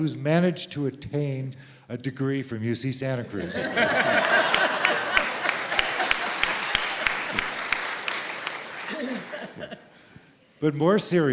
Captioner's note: laughter and applause